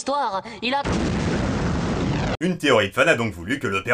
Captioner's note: boom